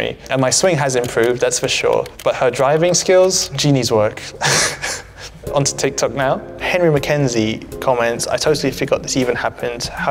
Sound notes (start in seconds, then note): 4.3 Alex laughing